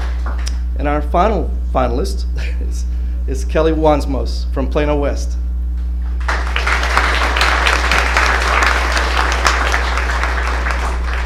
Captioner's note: applause; applause